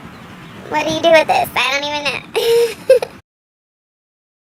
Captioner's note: laughs